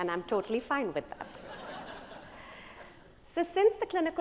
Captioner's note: attendees laugh